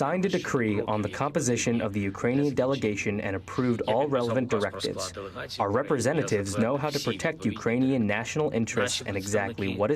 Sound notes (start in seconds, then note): 2.6 speaking in native tongue